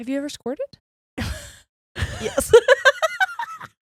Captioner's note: chuckles; laughs